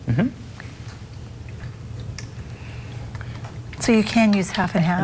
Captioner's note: pouring Sound